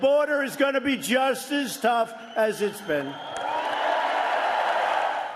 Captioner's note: applause